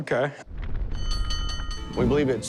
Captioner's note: fire alarm dings